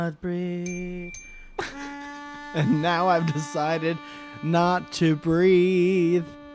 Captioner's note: ding ding